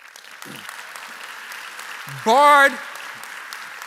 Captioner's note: applause